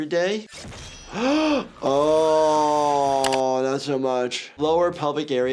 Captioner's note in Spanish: silbido del arma